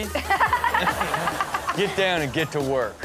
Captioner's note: Chanel and audience laughing